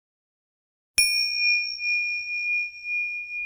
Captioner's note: bell chimes